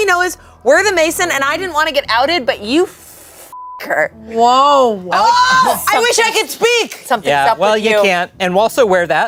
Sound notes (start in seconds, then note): 3.5 beep